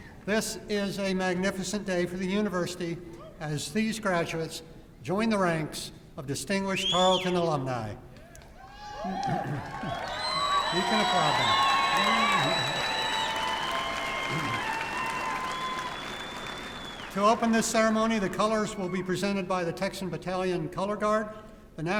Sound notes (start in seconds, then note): 8.9 applause and cheering